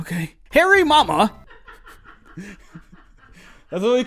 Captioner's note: mom laugh intensifies